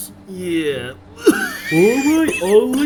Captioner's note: coughs